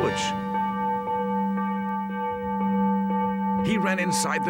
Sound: bell tolling

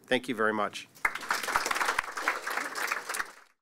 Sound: audience clapping

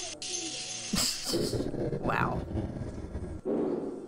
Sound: laughter

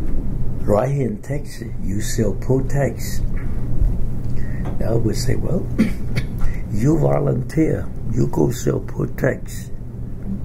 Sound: coughs

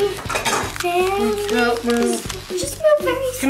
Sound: sound of cracking ice; sound of dishes in the sink

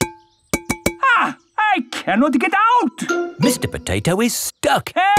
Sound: knocking on window

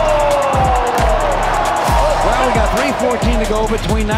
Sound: crowd cheering

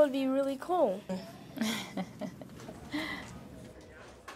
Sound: laughs

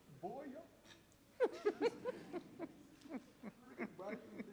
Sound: audience laughs

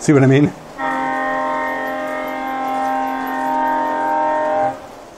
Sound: horn blows again

